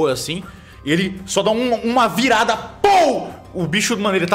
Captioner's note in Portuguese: pow